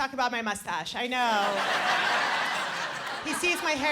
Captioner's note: laughter